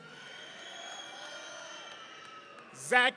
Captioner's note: audience cheering